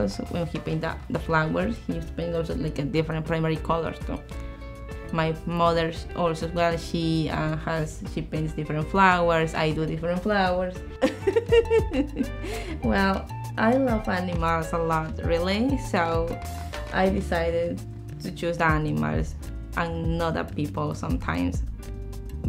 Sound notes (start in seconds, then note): 11.0 laughs